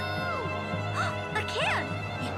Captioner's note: dramatic music; gasps